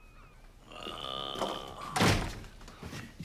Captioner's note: groans